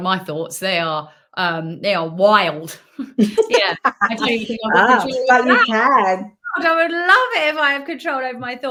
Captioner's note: laughing